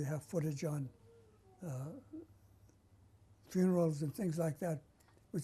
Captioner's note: pauses for 3 seconds